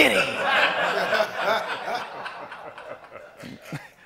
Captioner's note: laughter